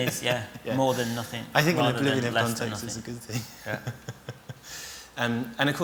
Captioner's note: laughs